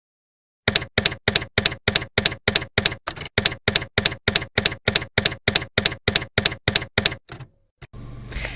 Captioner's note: typewriter keys clacking